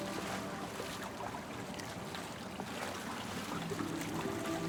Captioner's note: water laps